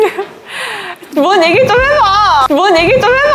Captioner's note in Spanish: aceleración repentina